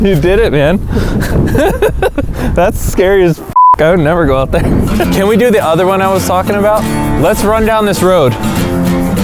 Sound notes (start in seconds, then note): 1.3 laughs; 3.5 beep